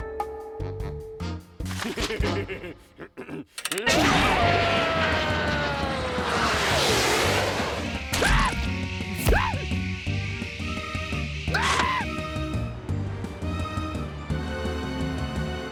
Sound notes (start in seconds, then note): 1.7 giggles; 3.8 screams